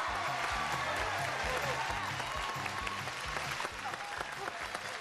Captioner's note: crowd cheers